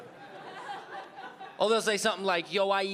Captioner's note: audience laughing